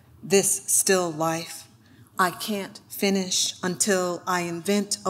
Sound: none

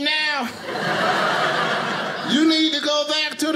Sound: audience laughing

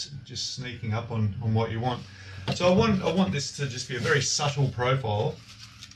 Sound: none

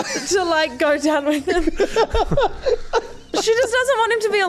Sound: laughs

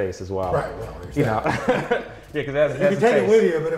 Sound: laughs

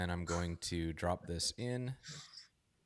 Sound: laughs

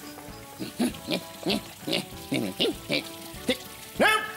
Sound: frustrated Mayor noises

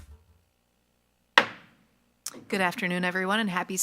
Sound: gavel bangs

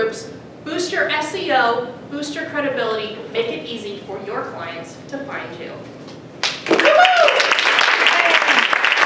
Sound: applause

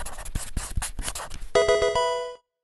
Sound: marker scratching; electronic video game chime

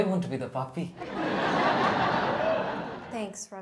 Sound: audience laughs

